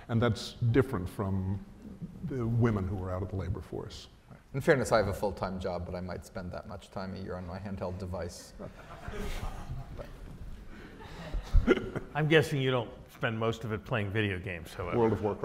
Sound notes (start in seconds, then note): 8.6 audience laughs